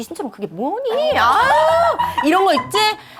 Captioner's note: whew